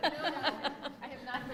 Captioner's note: laughing